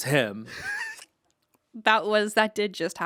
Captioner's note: Anthony laughs